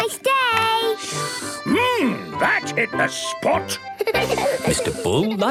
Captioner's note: slurping; giggling